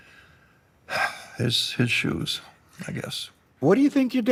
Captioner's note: sighs